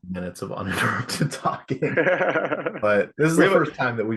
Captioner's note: laughter